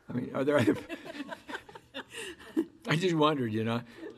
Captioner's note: women laughing